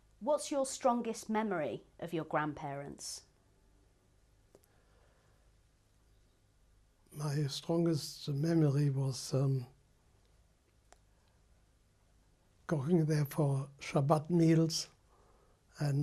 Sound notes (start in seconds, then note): 10.2 pauses for 3 seconds